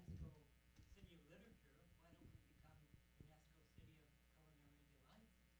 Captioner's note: audience member muttering